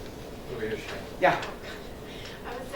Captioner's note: overlapping muttering